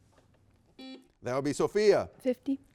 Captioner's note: buzzer beeping